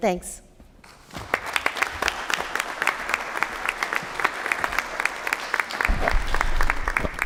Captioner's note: applause